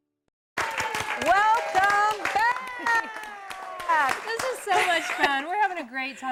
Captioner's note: �cheering and applause�